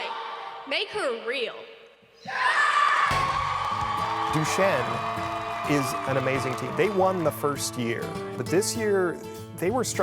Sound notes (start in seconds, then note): 2.2 crowd roars